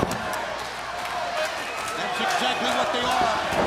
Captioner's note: crowd chatter